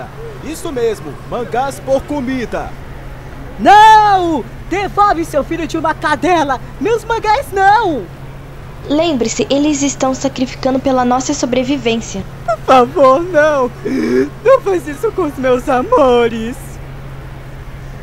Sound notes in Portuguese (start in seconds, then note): 13.8 Snif